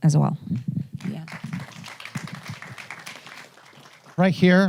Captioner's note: audience applauding